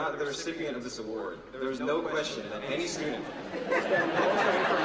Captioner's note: laughter